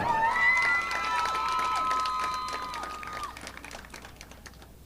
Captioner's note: audience applauding